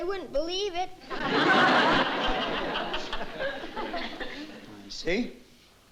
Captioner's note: laughter